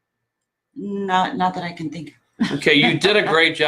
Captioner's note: laughs